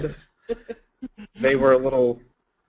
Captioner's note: laughing